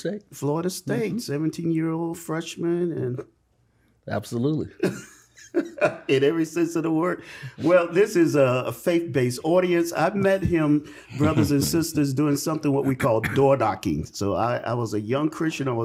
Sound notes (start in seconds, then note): 4.8 laughs